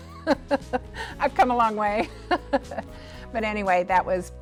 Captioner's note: laughs